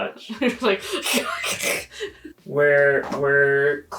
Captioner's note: imitates slicing noises